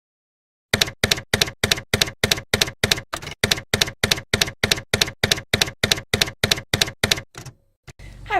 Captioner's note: typewriter keys clacking